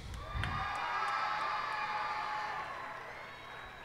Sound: cheers and applause

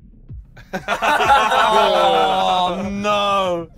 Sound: laughing

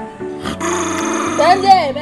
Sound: intense growl

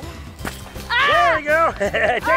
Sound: yells; laughs

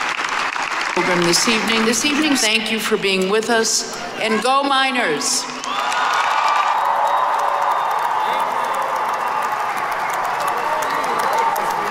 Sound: applause

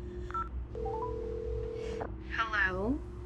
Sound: dialing

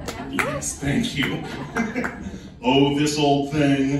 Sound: audience nervous cough and giggle

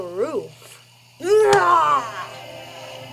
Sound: screams

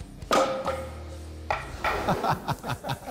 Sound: laughs

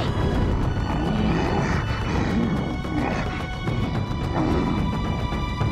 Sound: grunting

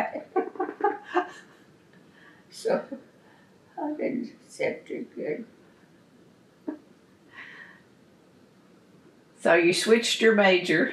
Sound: laughs

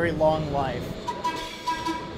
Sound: whistle tooting

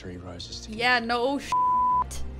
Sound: beeps

